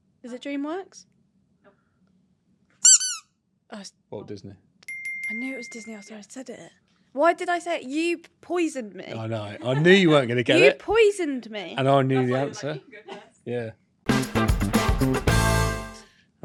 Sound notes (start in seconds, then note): 2.8 toy squeaks; 4.8 bell chimes; 14.0 upbeat music